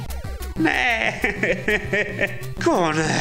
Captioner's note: sobbing